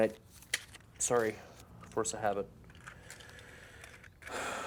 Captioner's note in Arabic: تنهدات